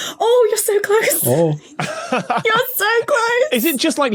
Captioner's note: laughs